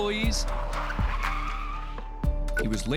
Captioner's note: wheels screeching